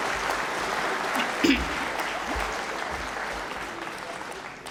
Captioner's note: applause